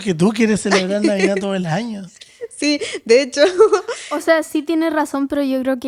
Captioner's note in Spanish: risas